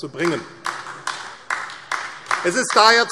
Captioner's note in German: Beifall AfD